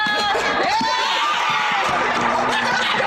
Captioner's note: cheers